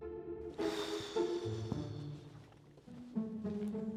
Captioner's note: deep exhale